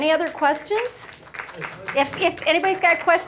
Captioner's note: applause